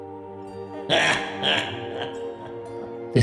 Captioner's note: laughing